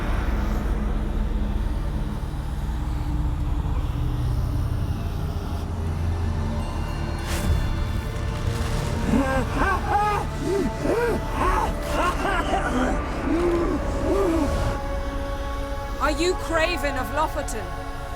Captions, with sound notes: [faint, ghostly rasp] [cries out in pain] Are you Craven of Lofoten?